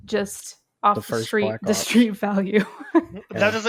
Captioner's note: laughs